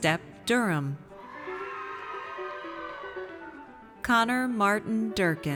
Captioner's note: audience cheers